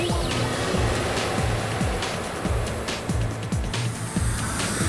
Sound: whirring sound

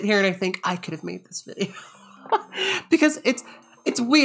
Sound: laughs

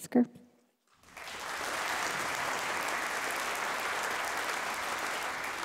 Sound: audience applauding

